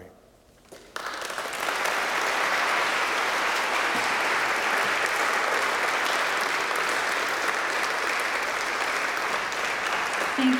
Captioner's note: applause